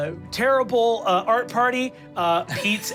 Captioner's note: laughs